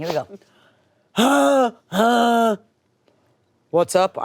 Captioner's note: groaning